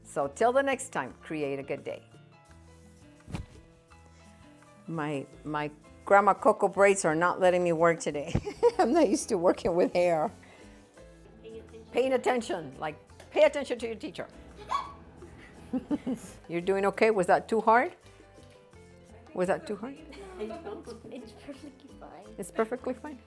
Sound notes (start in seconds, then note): 8.7 laughing; 14.7 gasps